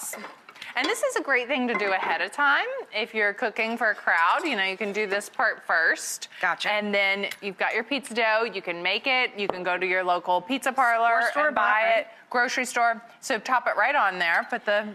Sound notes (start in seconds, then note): none